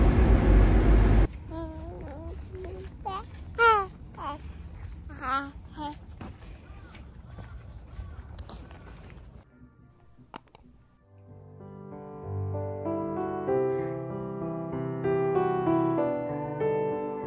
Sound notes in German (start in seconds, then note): 6.5 lacht